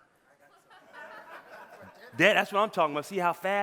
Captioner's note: audience laughing